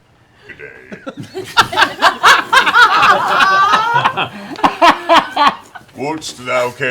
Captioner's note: laughter